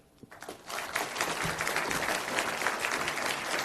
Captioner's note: applause